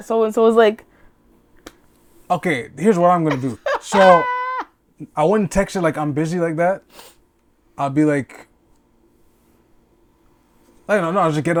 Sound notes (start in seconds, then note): 3.2 laughing